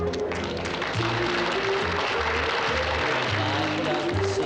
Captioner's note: audience applauds